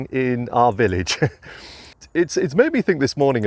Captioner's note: chuckling